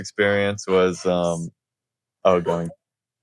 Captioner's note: whispering